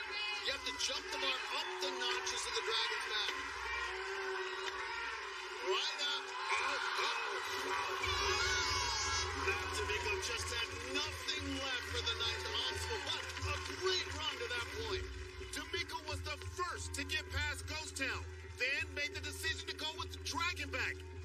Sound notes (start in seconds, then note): 8.0 air horn blares; 8.0 both groan